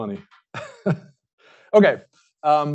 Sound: laughs

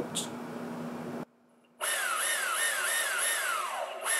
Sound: engine revving

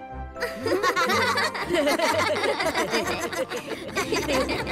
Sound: all laughing

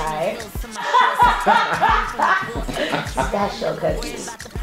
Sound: laughs

